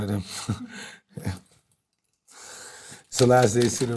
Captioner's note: chuckles